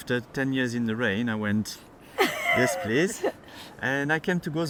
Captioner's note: both chuckle